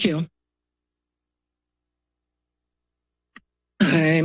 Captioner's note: pause